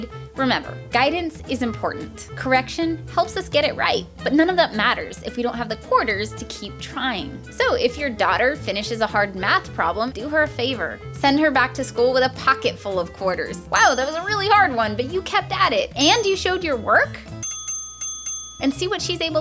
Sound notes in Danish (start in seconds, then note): 13.7 ding; 18.1 ding ding ding